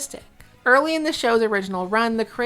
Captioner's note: none